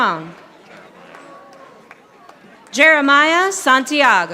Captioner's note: audience applauding